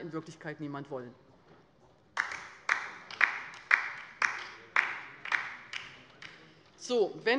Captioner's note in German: Beifall bei der LINKEN